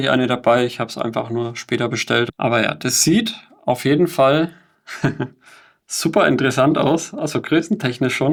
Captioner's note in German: gelächter